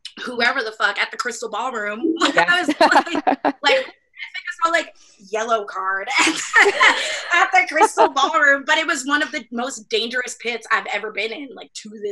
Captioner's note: laughs